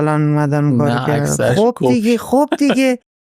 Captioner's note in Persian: خنده